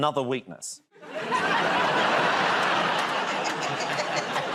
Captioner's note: laughter; laughing